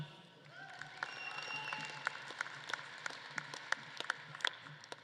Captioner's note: audience claps and cheers